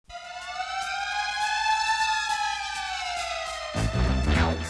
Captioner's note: siren